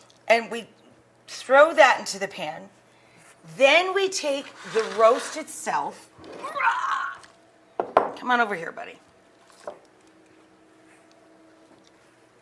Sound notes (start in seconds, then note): 6.4 roars